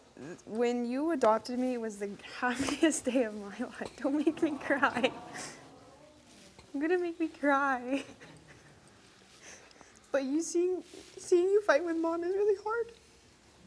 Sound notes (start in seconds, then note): 3.6 laughing; 3.9 audience awwing; 8.9 chuckling